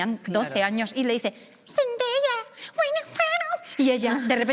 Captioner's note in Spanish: habla en inglés con voz infantil